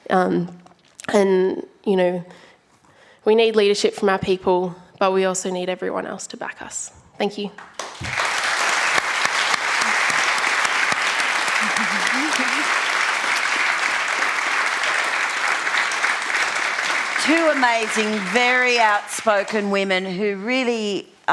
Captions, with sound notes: And, you know, we need leadership from our people, but we also need everyone else to back us. Thank you. [ Applause ] >> Two amazing, very outspoken women who really,